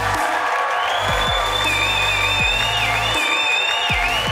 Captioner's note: audience cheering